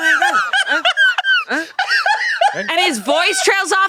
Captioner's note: laughs